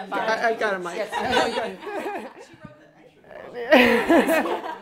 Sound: laughter

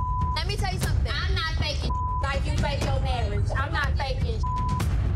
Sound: beep; beep

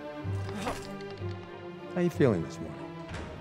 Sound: door creaks; grunting

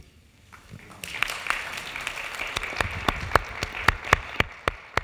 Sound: audience applauding

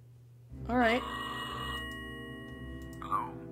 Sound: phone Ringing

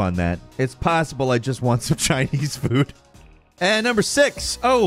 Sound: laughs

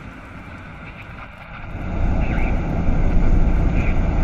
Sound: static

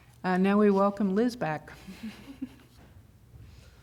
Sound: laughter

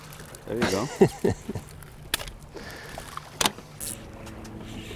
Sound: laughs

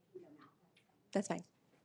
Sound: unmiced voice talking

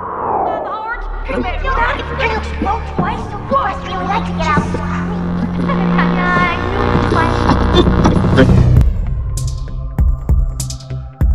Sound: buzzing, title screen for "True Equestria Story"

